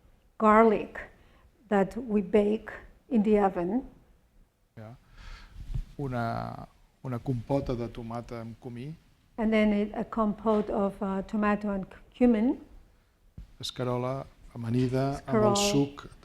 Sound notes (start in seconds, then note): 6.5 speaking spanish